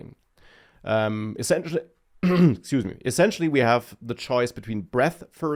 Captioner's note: clears throat